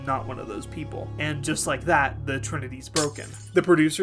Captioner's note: glass shattering